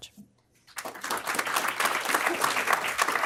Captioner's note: applause